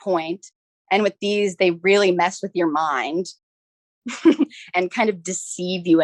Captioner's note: chuckles